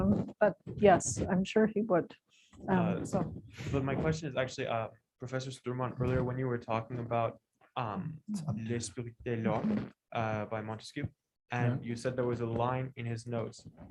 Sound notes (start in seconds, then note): 8.9 non-english